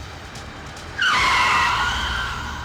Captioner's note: tires squealing